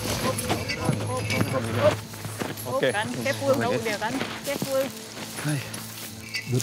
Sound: shouting and chattering

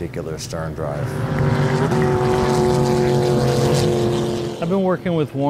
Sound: boat engine roars

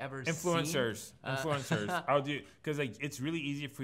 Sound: laughs

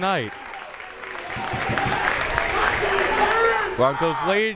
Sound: crowd members clapping

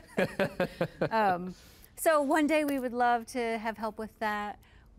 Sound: laughing

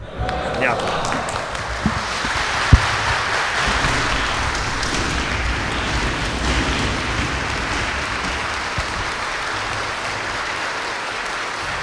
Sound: applause

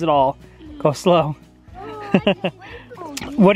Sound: laughs

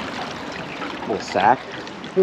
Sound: reel cranking

